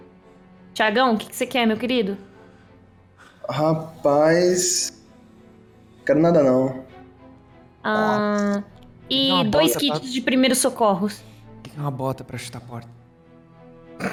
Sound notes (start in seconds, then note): 8.3 hum…